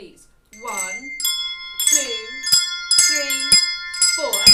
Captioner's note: bell sounds